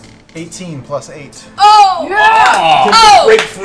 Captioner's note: cheering